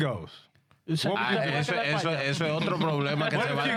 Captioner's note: speaking In Spanish